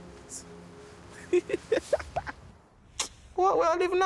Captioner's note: laughing